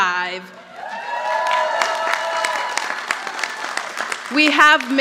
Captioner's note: audience applauding